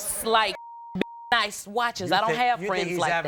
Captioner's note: beep